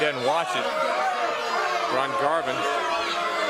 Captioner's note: crowd chatter